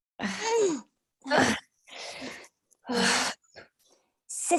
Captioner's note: sisters grunting